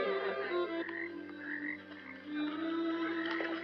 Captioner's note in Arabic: نقيق الضفادع